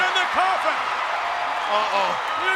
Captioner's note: audience cheers